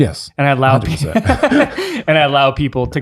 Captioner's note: laughing